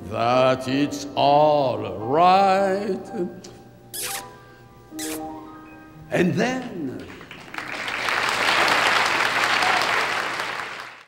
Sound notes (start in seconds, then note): 6.5 audience clapping